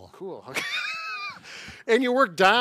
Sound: laughing

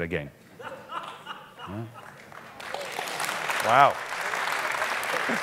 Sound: audience applauding

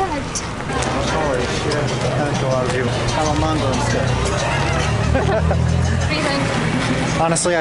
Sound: laughter

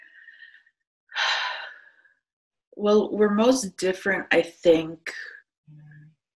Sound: sighs

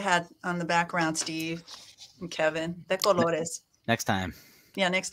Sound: speaking in foreign language

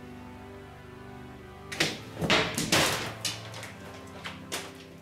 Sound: ball bouncing

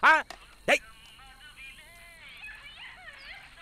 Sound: phone rings

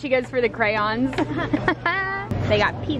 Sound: laughing

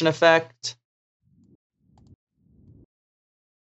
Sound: mouse clicking

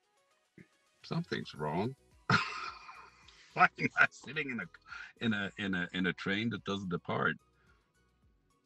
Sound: laugh

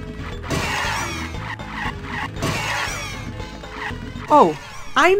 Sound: car tires screeching

